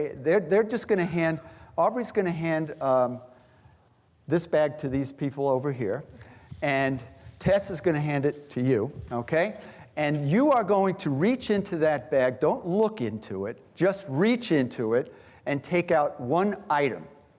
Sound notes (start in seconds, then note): none